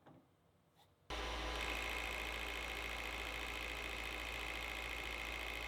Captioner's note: machine whirring